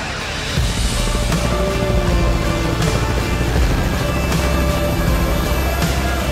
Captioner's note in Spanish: aspas del helicóptero girando